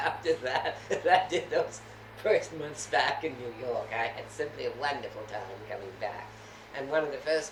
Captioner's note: laughs